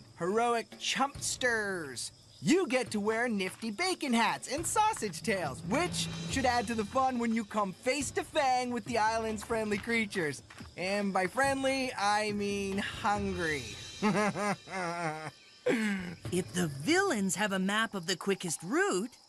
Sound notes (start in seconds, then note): 14.0 chuckling